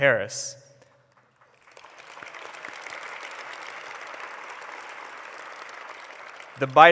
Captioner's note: applause